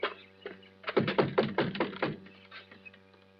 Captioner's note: knocking on door